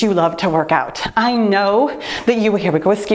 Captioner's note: timer beeps